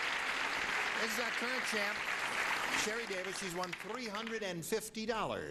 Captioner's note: applauding